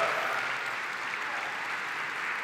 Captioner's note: Applause